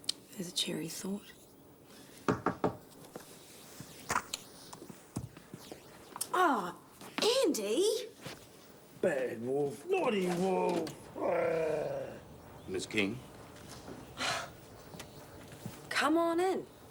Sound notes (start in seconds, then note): 2.3 knocking; 11.0 wolf growls; 14.2 Jodie sighs